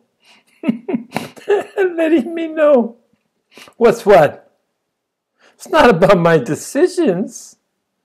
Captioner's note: laughs